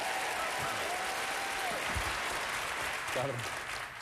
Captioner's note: applause